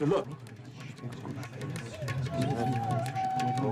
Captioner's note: chattering